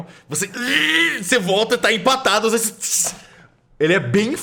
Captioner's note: groans